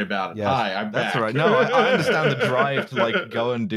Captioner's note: laughs